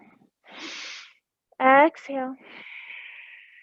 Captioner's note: exhaling; inhaling